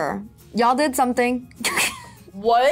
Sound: laughs

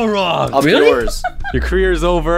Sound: still laughing

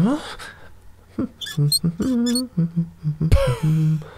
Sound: humming; poof

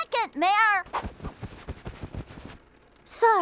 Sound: Blossom rustling

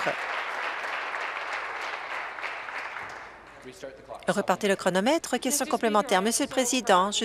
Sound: applause

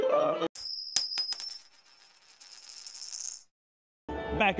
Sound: coin chimes

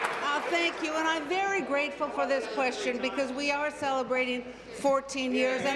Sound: applause

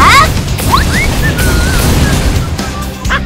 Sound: whistles

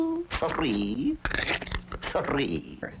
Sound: lollipop cracking

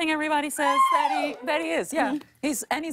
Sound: man cheers

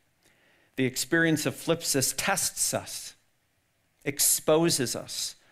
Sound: speaks in foreign language

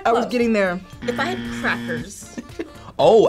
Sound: buzzer buzzing

